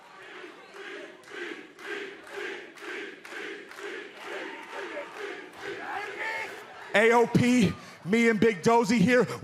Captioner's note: fans chanting